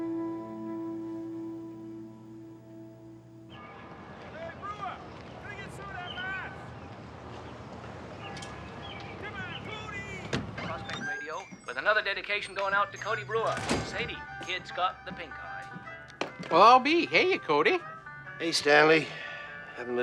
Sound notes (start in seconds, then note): 3.6 bell tolling; 11.0 radio